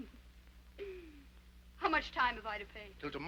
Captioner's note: Becky chuckles